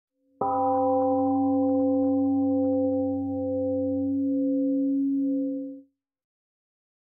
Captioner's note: temple gong rings and fades